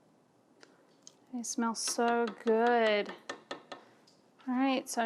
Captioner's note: taps utensil